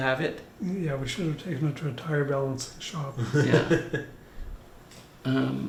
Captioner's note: laughs